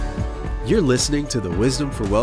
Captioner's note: voiceover